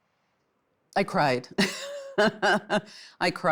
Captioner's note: laughs